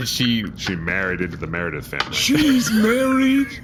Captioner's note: more barely suppressed giggling